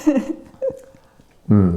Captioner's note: laughing